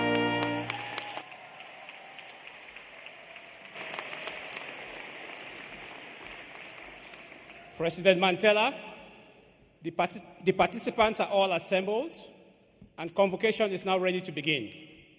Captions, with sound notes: [ APPLAUSE ] PRESIDENT MANTELLA, THE PAR PAR 'TIS ANTS ARE